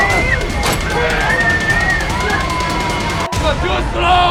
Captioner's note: people screaming; tense music continues